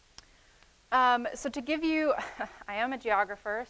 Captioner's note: chuckling